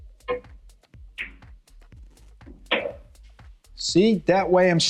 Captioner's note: balls clanging